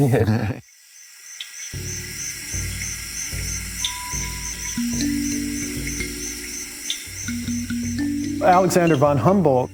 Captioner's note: cricket sounds